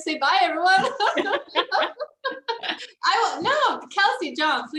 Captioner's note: laughing